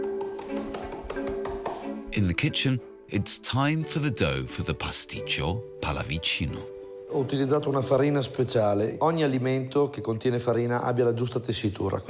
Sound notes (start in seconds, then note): 7.0 speaks in foreign language